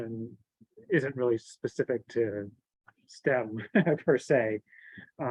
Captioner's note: chuckles